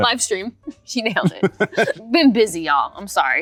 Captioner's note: Rob laughs